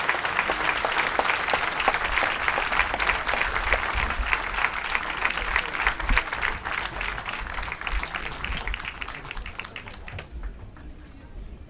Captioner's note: applause